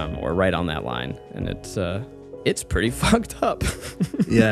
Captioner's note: chuckles